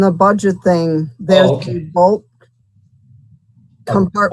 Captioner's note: murmur